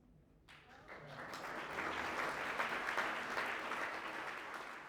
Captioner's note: applause